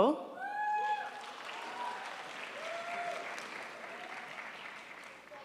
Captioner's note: crowd applauds